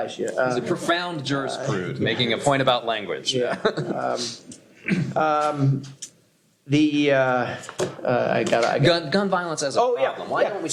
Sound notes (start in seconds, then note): 3.4 laughs